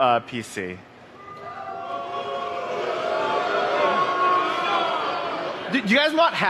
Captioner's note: crowd